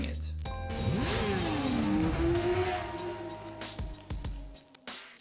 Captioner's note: motorcycle engine roaring